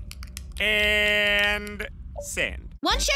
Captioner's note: typing; click